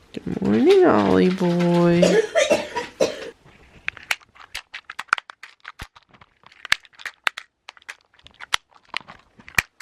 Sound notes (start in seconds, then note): 1.9 coughing; 3.7 containers being snapped closed